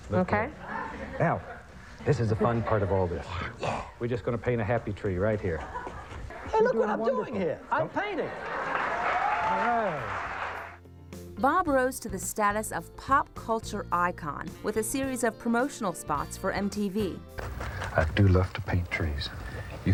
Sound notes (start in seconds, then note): 8.1 audience laughs